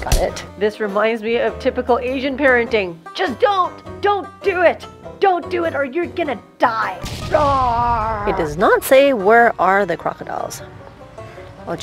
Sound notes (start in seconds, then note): 7.0 explosion; 7.1 mimics roar